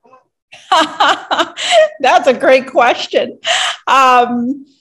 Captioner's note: laughs